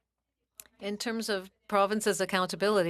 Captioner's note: speaking French